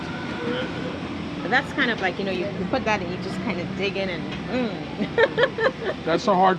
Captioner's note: laughs